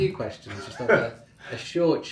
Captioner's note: laughing